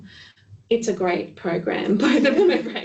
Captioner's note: laughing